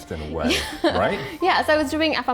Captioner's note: laughs